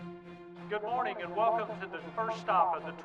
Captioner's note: male Loudspeaker Voice